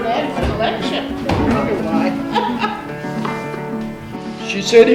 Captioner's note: laughs